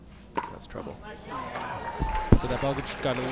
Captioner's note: crowd cheers